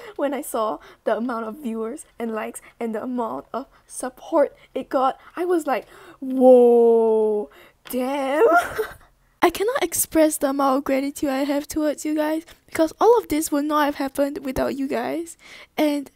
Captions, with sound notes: when i saw the amount of viewers, and likes and the amount of SUPPORT it got i was like WOAHHHHHHHHHHHHHHHHHHHHHHH DAMN! *laughs* i cannot express the amount of gratitude i have towards you guys cause all of this would not have happened without you guys :3 anddd